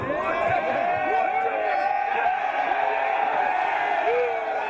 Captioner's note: cheering